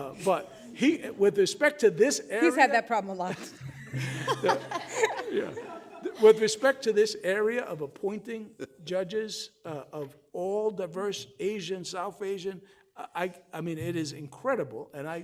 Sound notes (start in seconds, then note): 3.2 all laughing